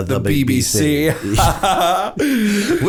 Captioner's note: laughter